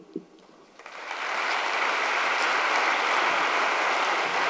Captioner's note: audience applauds